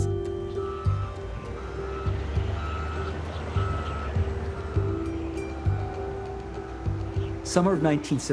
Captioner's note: reverse signal beeping